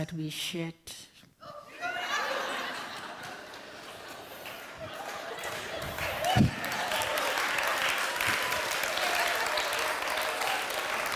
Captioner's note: laughter